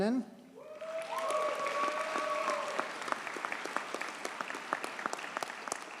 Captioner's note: audience cheers and applauds